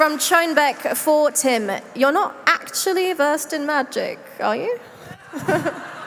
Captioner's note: applause